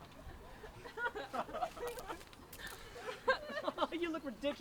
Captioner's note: audience laughter